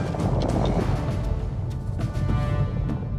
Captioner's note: distant rumbling